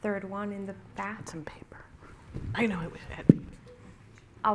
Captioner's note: indistinct chatter